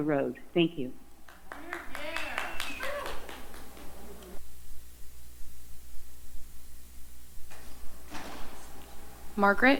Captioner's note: applause